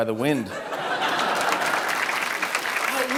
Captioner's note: laughter